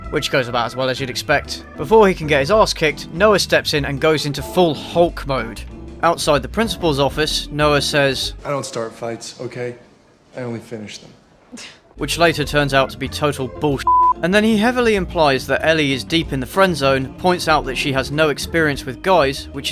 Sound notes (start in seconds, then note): 11.4 scoff